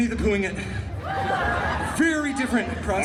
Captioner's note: guests cheering and laughing